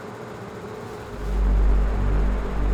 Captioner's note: fan whirring; ominous music